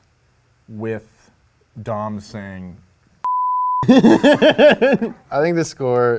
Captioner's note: beep